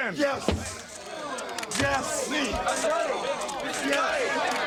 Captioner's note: cameras click